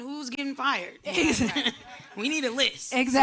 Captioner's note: laughing